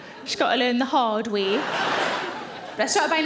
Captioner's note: audience laughing